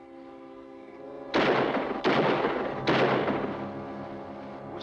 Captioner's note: dramatic music; gun firing in distance